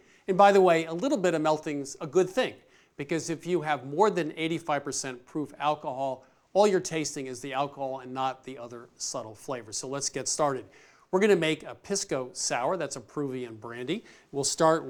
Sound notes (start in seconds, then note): none